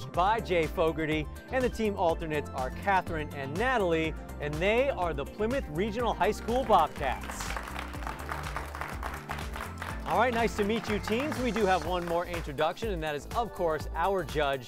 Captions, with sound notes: and the team alternates are Catherine and Natalie. And they are the Plymouth Regional High School Bobcats. [applause] All right. Nice to meet you, teams. We do have one more introduction, and that is, of course, our judge, Ann Boulanger.